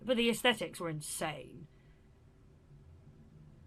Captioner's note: a beat